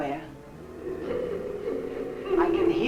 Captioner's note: faint muffled chatter nearby